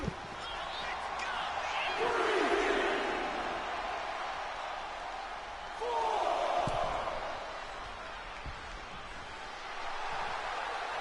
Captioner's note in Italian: Applauso